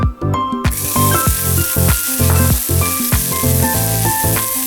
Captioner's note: sizzling